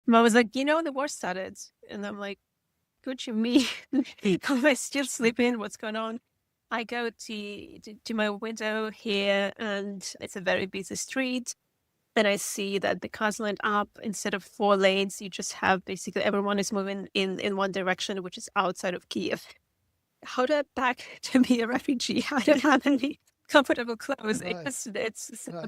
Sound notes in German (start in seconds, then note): 3.6 lacht; 24.2 lacht